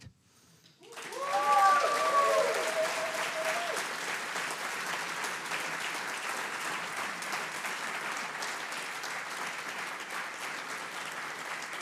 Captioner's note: audience applauds